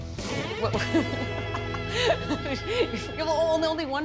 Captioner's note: laughing